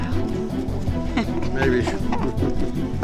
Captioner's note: chuckles